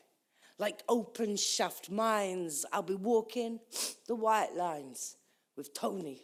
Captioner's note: sniffs